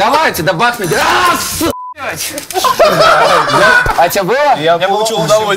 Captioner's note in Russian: все смеются